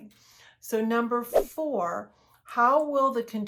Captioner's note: air whooshes